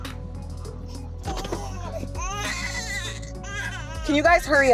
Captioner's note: crying